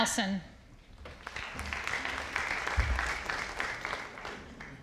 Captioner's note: audience applauding